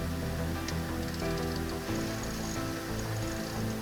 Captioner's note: crank turning